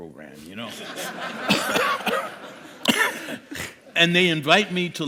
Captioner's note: laughter